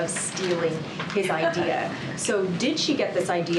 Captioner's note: laughs